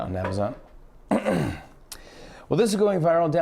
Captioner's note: clears throat